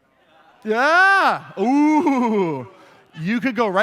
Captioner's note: laughter